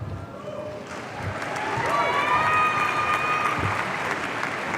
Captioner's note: audience cheering